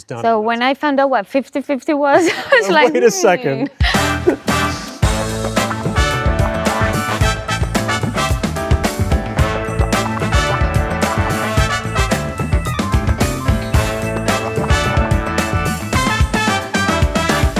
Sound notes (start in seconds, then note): 2.2 laughs; 4.8 lively music; 13.8 lively music continues